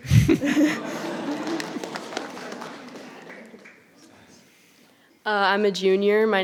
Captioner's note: audience laughs; audience applauding